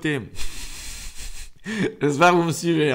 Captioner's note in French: Rires